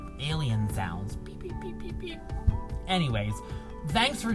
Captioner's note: imitating alien sounds